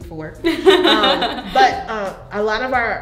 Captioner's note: laughs